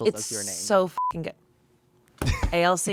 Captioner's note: beep